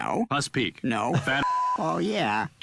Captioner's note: beep